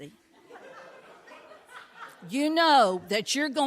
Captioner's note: audience laughing